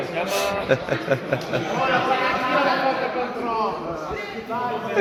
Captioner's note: giggling in the background